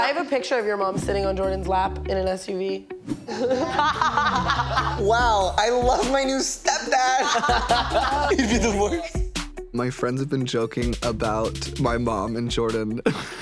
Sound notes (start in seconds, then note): 3.2 all laughing; 6.6 laughs; 13.0 laughs